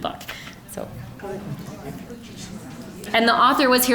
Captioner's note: general chatter